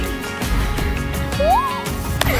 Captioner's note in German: Jubel